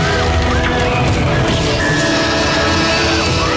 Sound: people screaming

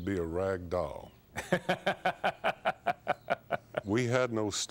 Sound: laughs

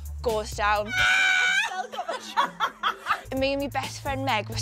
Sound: screams

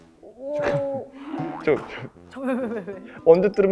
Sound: suddenly laughing

